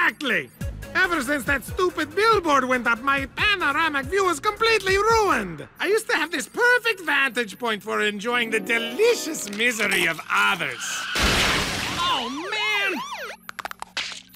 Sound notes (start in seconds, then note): 11.5 tires screech and cars crash; 11.8 siren wails